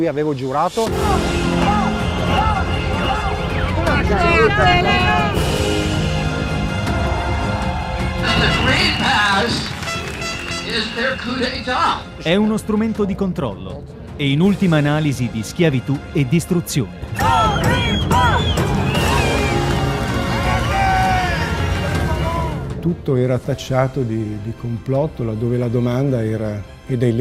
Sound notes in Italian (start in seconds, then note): 7.6 Applauso